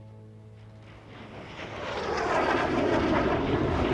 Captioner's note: aeroplane whooshing